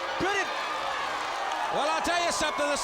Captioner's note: crowd cheering